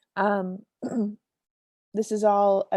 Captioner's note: clears throat